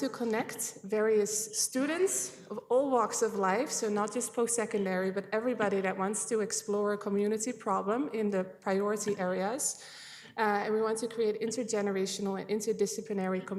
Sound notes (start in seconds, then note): none